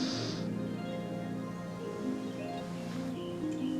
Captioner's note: harp strings; snoring